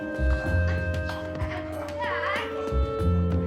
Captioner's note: laughing